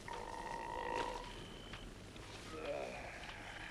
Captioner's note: Torente belches; Torente sighs